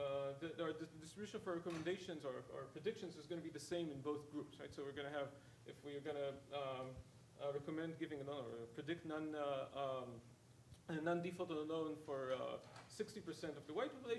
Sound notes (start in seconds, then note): none